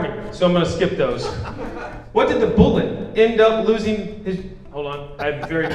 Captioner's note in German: lachen